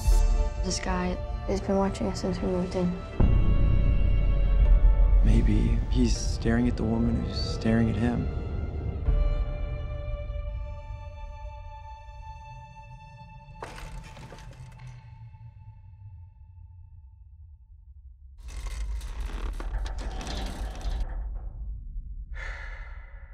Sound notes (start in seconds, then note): 8.2 suspenseful music; 13.6 chair creaks; 18.4 chair creaks; 22.3 exhales